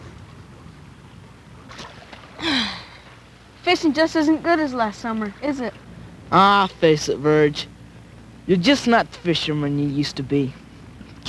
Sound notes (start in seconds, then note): 2.4 Virgil sighs